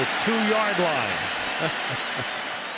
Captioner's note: cheering; laughs